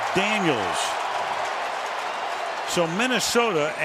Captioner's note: cheering